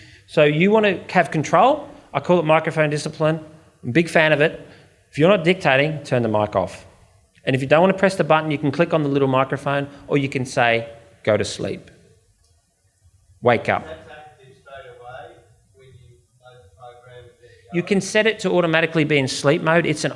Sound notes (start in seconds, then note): 13.9 audience member murmurs